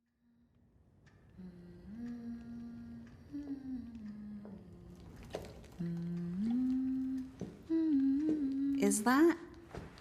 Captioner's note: humming